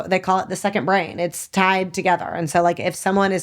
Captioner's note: none